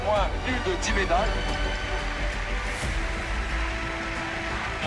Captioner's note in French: applaudissements